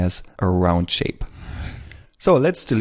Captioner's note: whoosh